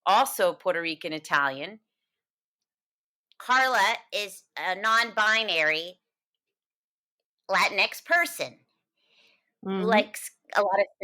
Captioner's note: in Carla character voice